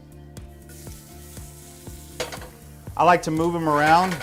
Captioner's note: oil hissing